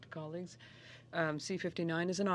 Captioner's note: speaking French